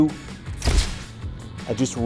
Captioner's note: shutter clicks